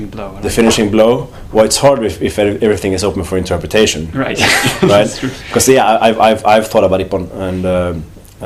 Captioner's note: laughter